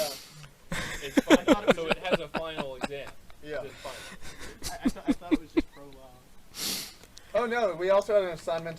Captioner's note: is still laughing